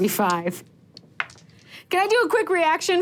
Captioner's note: dice rolling